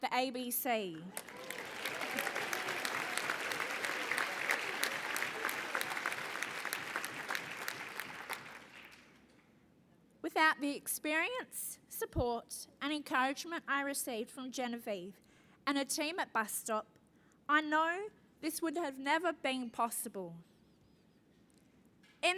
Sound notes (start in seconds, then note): 1.0 applause